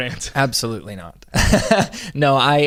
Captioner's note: laughs